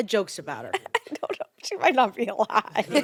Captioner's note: laughs